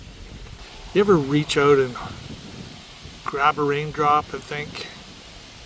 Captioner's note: rain falling